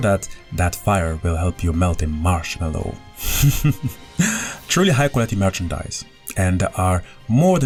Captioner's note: laughs